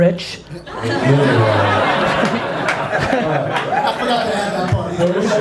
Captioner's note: audience laughs